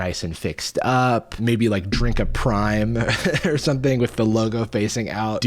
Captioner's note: chuckles